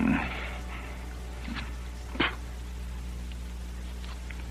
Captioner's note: spitting Sound